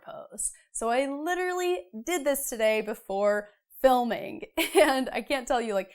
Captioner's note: laughs